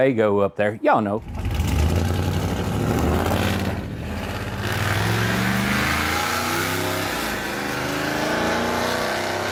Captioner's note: engine Noises